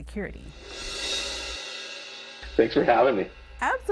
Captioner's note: cymbal whoosh